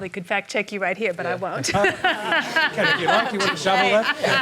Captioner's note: laughs